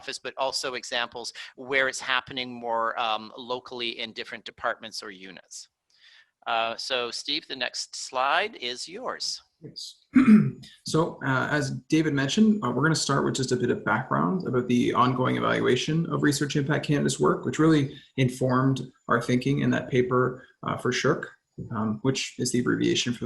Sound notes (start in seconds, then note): 10.1 clears throat